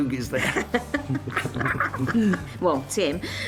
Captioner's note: both laughing